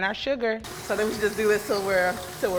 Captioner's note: mixer whirs